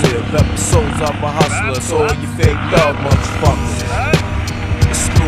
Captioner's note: dirtbike noises